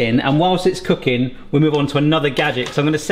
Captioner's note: none